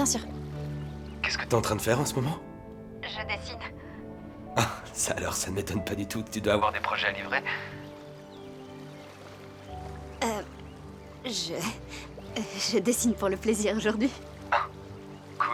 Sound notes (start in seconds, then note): 11.4 chuckling